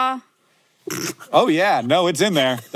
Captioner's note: Maya laughs